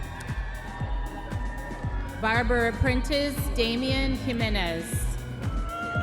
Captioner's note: audience members cheering